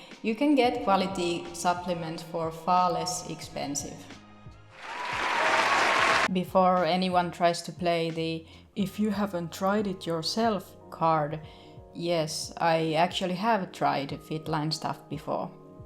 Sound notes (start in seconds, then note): 4.7 applause